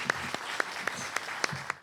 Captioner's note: audience applauding